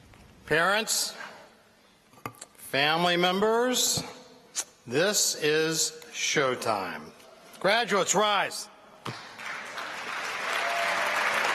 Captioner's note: applause